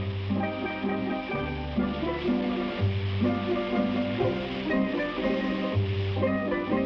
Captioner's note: fireworks hiss; solemn guitar music